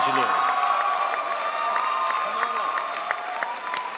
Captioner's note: crowd applauds